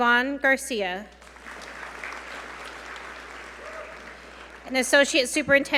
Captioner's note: audience applaud